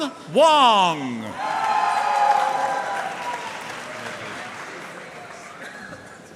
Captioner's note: audience cheering and applauding